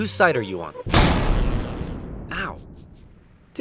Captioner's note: lightning zaps